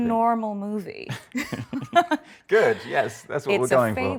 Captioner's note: both laugh